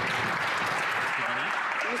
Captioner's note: some Applause